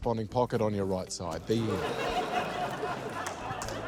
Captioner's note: laughter